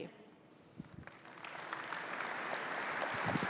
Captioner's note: applause